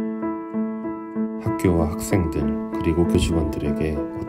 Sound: non-english speech

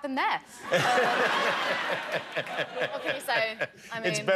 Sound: laughter

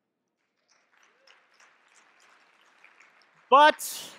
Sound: audience clapping

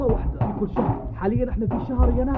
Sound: knocking

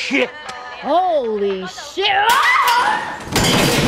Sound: screams

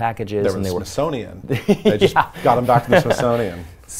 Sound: laughs

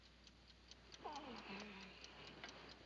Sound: Wheeler grunts

